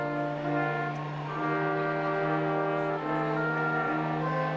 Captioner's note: attendees cheering